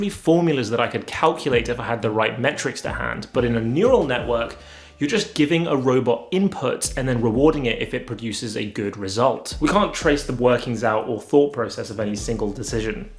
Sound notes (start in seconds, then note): none